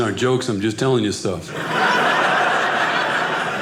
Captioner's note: audience laughing